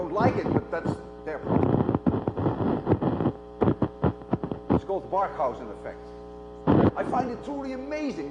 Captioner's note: cracking noise